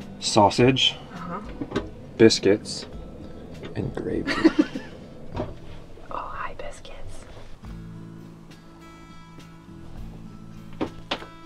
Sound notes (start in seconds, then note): 4.0 laughing; 8.8 gentle music